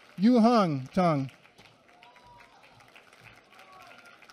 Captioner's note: applause